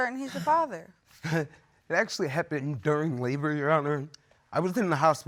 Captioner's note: scoffs